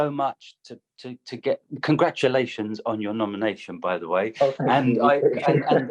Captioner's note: laughter